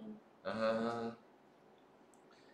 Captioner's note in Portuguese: murmúrio de afirmação